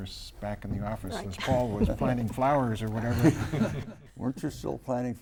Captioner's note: laughter